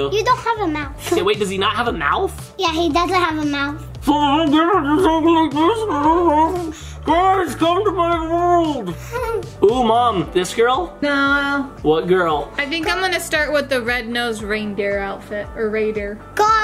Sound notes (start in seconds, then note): 8.9 laughing